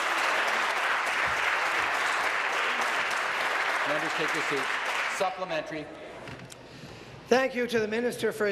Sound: applause

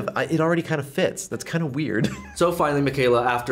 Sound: chuckles

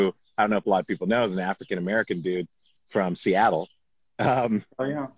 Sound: laughs

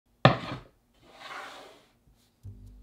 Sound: board sliding

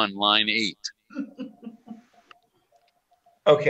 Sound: laughter

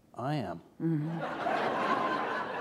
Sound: laughter

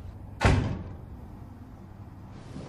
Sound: door closing

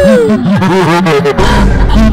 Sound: satan giggles

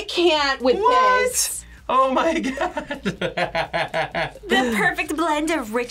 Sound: laughs

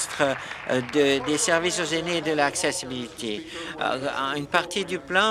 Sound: applause

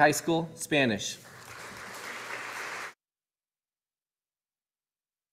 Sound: audience applauding

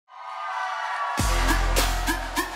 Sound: audience cheers; vigorous music

